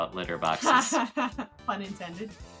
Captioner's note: laughs